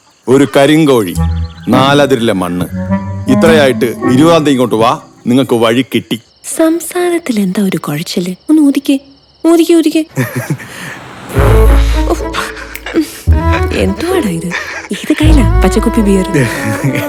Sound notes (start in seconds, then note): 10.1 laughing; 10.4 blowing loudly